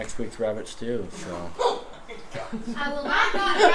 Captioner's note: laughing kids in the background